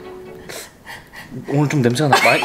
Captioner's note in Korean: 고민하는 입소리